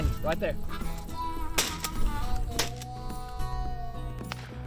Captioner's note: gun fire